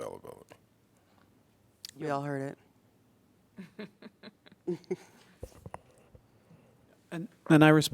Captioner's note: laughter